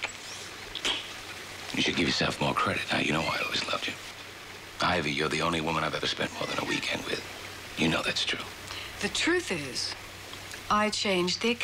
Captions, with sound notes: [clicks tongue] [smacks] You should give yourself more credit. Now, you know, I always loved you. Ivy, you're e only woman I've ever spent more than a weekend with. You know that's true. The truth is...